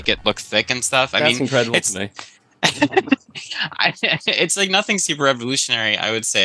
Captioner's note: laughs